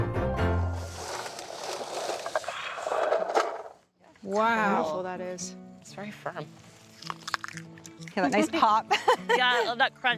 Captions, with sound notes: >> Wow. >> Look how colorful that is. >> It's very firm. (crunching loudly) >> Hear that nice pop. (laughing) >> Yeah, I love that crunch.